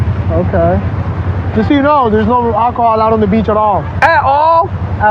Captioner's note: none